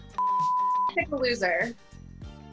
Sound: beep

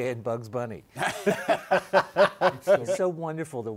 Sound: laughter

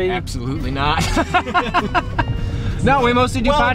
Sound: laughing

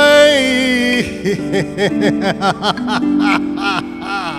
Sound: laughs

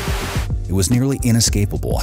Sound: tv static

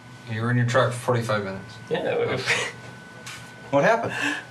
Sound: snickering

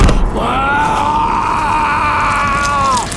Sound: screaming in pain

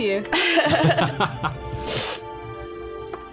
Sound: laughter

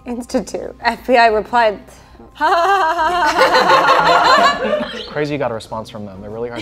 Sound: all laughing

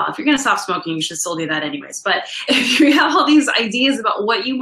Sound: laughs

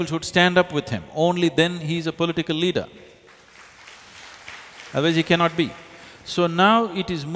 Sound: applause

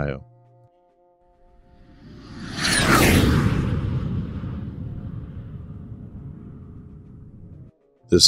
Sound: jet Whoosh Sound

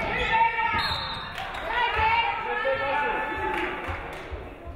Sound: referee whistles

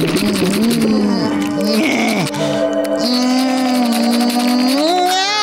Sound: groaning

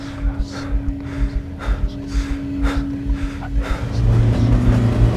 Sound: rhythmic chugging of train moving on tracks; hyperventilating; ominous metallic noises

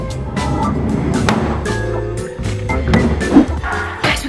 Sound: door closes

